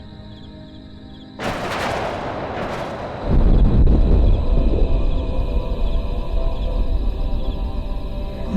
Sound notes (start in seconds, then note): 1.4 thunder Rumbling Continues; 1.6 triumphant Music Continues